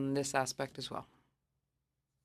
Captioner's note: speaking French